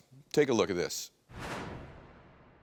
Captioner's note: graphic whooshes